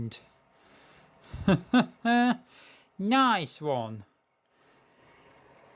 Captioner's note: chuckle